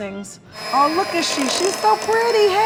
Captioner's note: mixer whirring